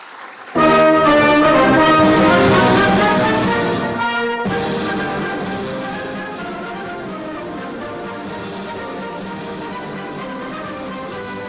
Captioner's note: applause